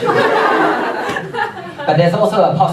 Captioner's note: audience laughs